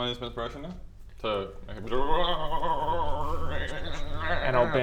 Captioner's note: brrrrrrbbrbrrrrbrgrgrrrrrgrrrrr